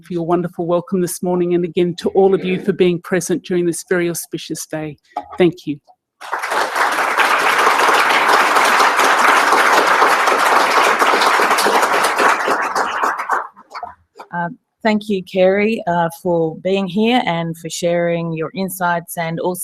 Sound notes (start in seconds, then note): 6.2 applause